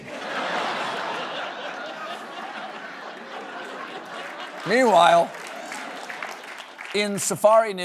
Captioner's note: laughter